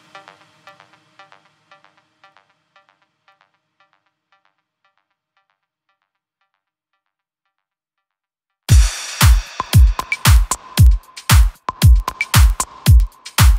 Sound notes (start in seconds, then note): 1.3 silence; 8.7 techno music playing